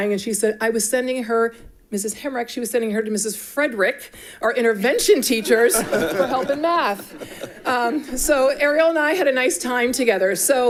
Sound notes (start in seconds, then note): 5.2 all laughing